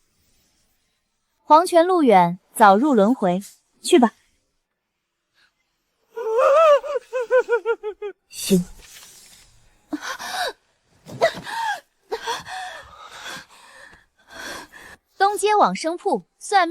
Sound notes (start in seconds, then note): 6.2 maniacal laughter; 9.9 anguished cry